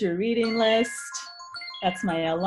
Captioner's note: alarm ringing